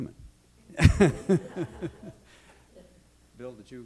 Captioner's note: laughter